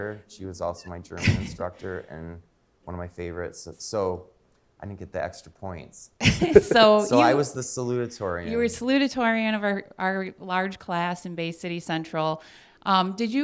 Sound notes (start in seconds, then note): 6.2 laughs